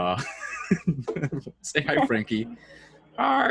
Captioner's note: laughs while all the guests look at him disappointed; laughs